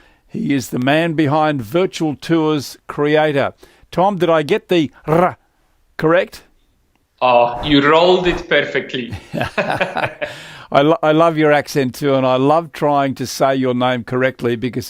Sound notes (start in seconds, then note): 9.0 laughing